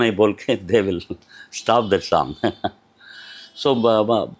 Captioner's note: laughs